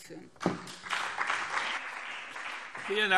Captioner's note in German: Beifall BÜNDNIS 90/DIE GRÜNEN und CDU